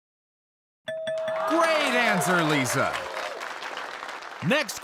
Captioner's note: bell dings; audience cheers